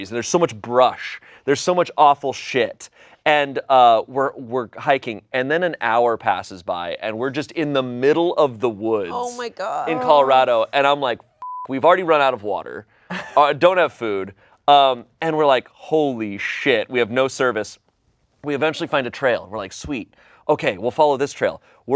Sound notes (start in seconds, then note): 11.4 beep